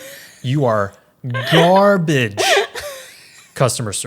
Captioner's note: laughs